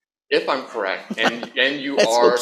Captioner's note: laughter